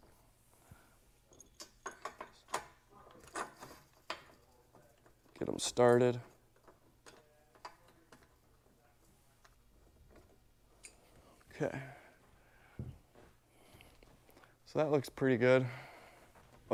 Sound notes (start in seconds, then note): 1.2 metal clinking